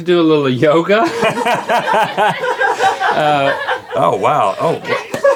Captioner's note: and crew laugh